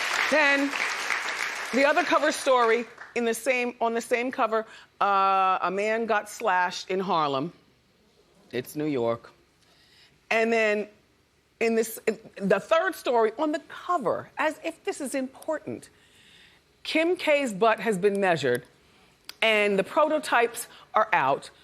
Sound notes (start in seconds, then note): 2.1 applause